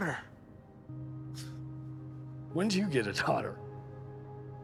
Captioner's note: scoffs